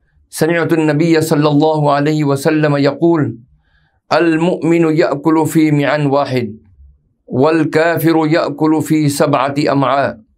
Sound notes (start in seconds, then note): 0.2 arabic